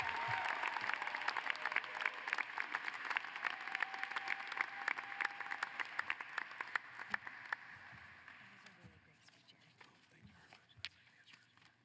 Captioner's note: applause